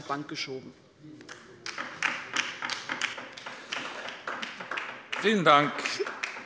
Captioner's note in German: Beifall bei der LINKEN